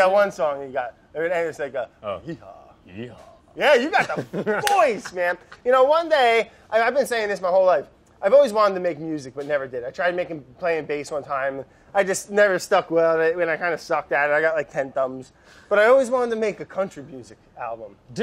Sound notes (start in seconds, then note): 3.6 laughs